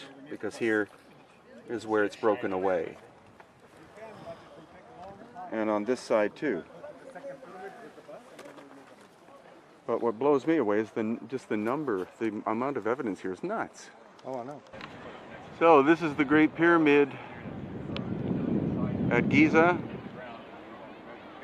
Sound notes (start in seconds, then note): 7.3 tourists chatting